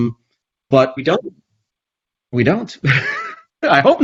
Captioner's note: laughs